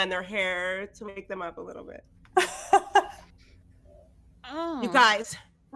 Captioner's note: laughs